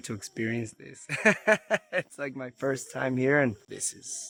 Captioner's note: chuckles